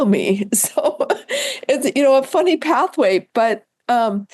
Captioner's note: laughs